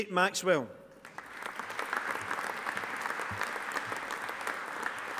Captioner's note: audience applauding